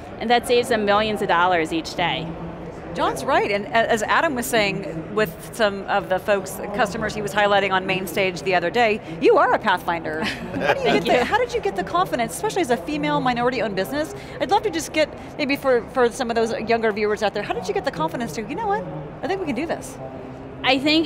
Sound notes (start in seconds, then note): 10.2 laughing